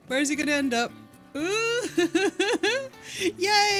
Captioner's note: laughing